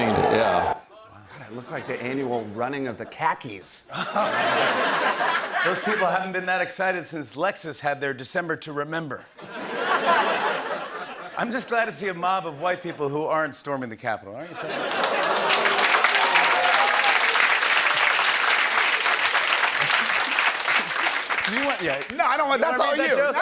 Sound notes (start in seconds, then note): 3.9 laughter; 9.4 laughter; 14.8 oohs and applause